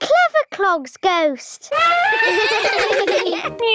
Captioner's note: trumpeting, laughing